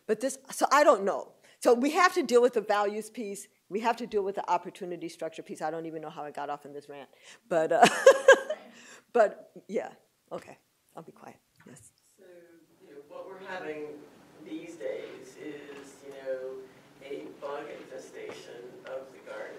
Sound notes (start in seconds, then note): 8.3 laughs